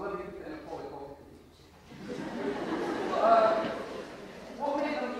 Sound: audience laughter

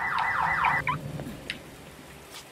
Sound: honk, car alarms; chirp of alarm being disabled

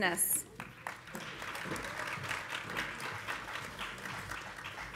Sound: audience applauding

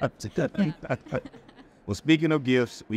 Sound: all laughing

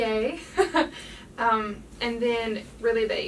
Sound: the lady laughing

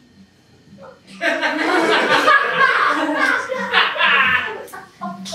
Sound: laughing

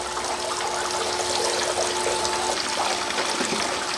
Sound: water running

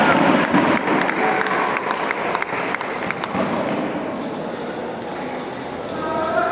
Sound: applause

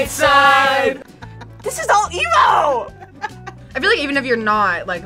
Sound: React laughs

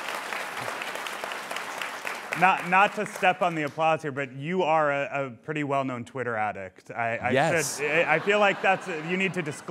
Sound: applause

